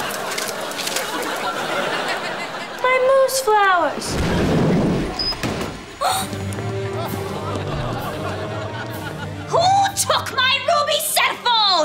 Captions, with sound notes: My Moose flowers! [gasping] Who took my ruby cellphone?